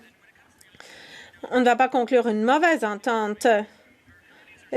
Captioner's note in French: voix de l'interprète